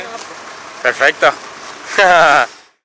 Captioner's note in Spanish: risa de metralleta